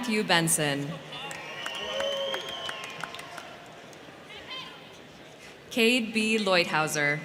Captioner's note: crowd cheering; crowd clapping